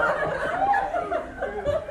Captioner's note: laughter